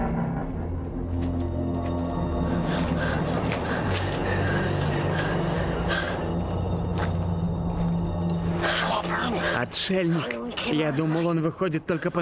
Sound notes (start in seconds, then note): 2.6 both Panting